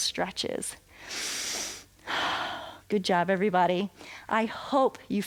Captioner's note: inhales and exhales